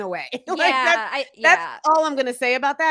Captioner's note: laughing